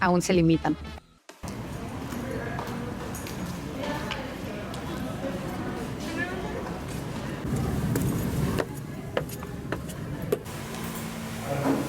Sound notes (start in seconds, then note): 6.9 steps